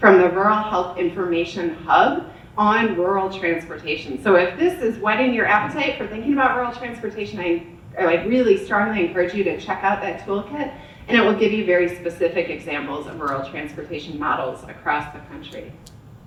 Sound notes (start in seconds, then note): none